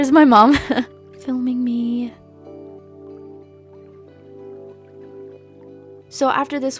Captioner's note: laughs